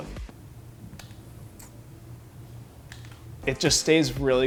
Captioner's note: fan blows quietly